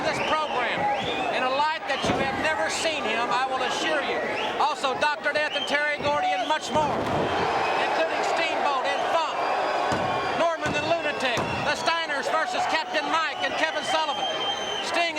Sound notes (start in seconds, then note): 8.3 crowd cheering